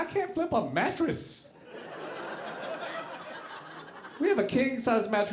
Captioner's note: audience laughing